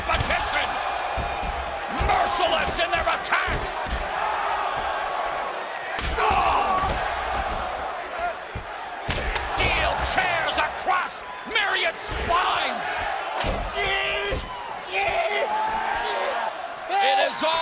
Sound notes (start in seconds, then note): 4.0 crowd cheering